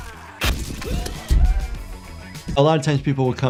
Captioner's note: character screams